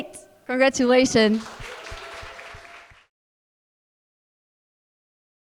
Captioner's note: audience applauding